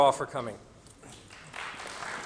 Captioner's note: applause